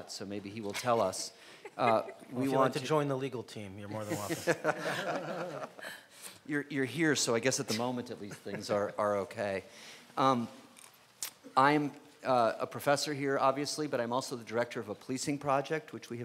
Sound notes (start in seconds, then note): 4.0 audience laughing